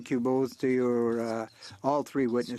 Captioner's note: speaking French